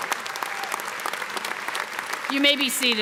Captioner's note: applause